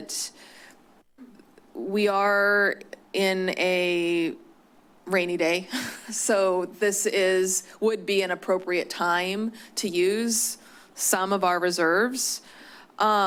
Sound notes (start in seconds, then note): 5.7 chuckles